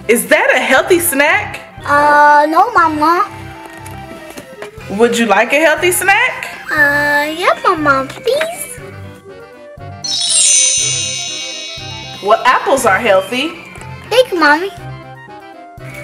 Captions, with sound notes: - Is that a healthy snack? - Uh, no Mama. - Would you like a healthy snack? - Uh, yes Mama please? (wand chimes) - Well apples are healthy. - Thank you Mommy!